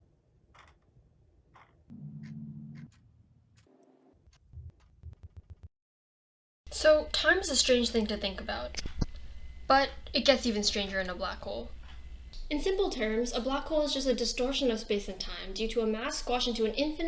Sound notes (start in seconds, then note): 0.0 clock ticking; 1.9 ticks faster